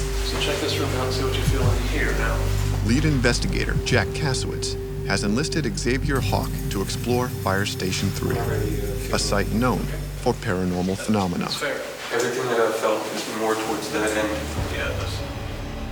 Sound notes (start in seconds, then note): 2.8 voiceover